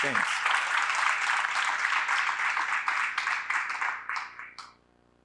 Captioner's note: applause